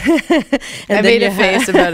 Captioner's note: laughter